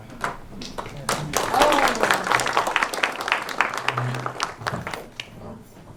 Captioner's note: applause